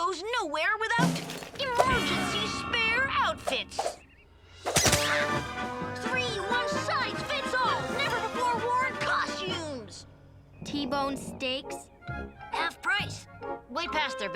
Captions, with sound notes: emergency spare outfits! (dramatic crescendo) (air whooshing) (costumes squeak) (heroic music) Three one-size-fits-all never before worn costumes! - T-bone steaks? - Half price. Way past their best-before date.